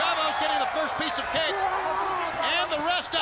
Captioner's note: crowd cheering